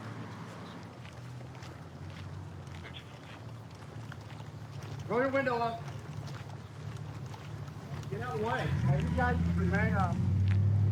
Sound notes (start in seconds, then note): 0.5 footsteps